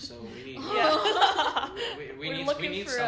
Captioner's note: laughter